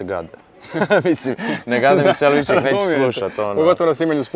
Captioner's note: both laugh